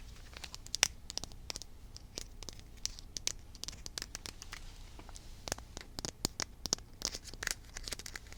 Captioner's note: tapping